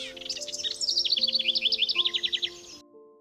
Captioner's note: house Wren Singing